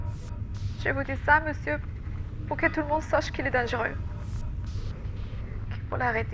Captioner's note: Giulia, voice trembling, recording